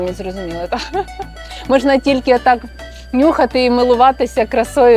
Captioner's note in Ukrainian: сміх